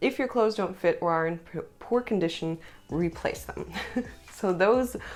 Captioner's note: laughter